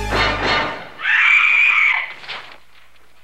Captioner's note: scream